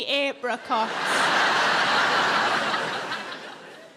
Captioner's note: audience laughing